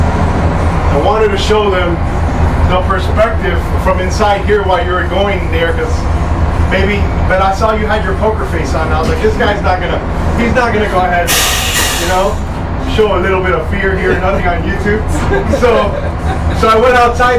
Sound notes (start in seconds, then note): 15.5 laughs